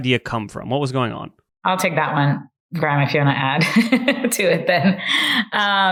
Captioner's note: laughs